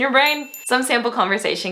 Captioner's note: bell dinging